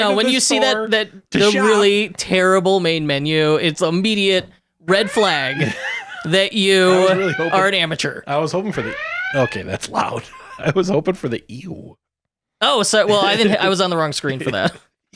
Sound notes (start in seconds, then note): 8.6 siren ringing